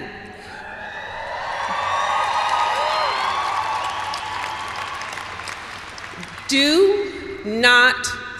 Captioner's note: cheers and applause